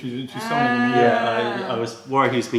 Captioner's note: french